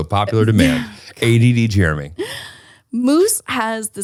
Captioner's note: laughing